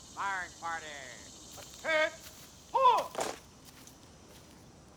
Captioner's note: heels clicking